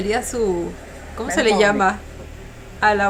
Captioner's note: in Spanish